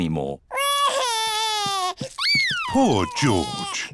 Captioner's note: crying